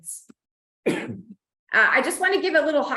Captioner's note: coughs